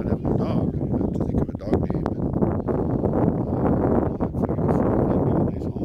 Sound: wind

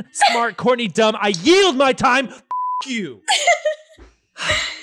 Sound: beep

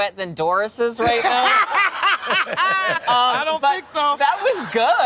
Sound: laughs

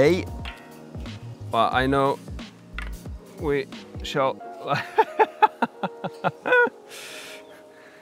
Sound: laughing

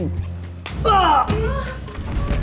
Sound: grunts

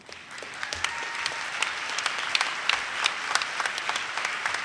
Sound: audience claps

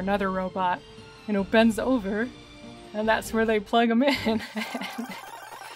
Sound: laughing

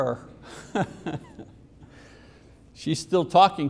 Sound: laughing

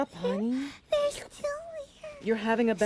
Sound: whimpering

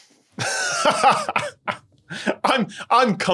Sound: laughs

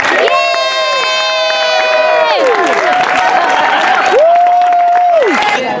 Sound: cheers

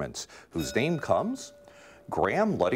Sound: bell ringing

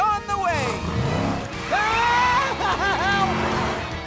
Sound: screaming

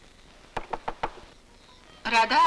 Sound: door knocking

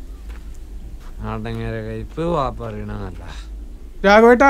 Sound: murmuring

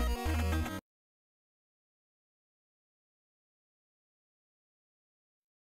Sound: 16-bit music playing; silence

